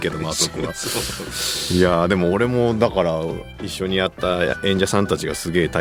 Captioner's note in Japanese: 鼻息